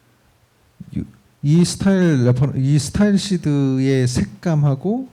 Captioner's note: speaking korean